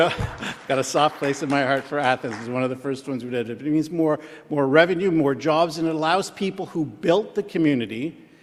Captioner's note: applause